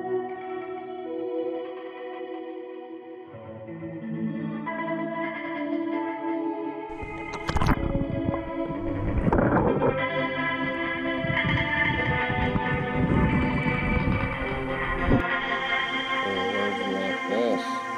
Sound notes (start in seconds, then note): 6.9 water noises; 9.2 gravel crunching